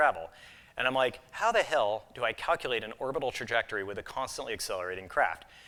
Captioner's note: none